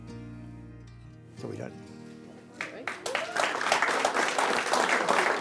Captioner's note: audience applauding